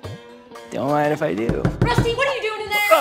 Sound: door knock

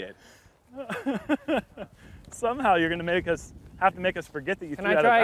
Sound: laughs

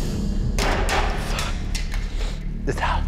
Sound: bearded man sniffles; glasses clatter; bearded man murmurs

